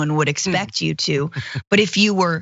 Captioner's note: laugh